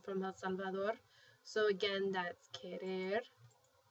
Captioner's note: spanish